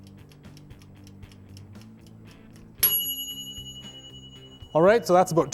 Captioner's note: tick tock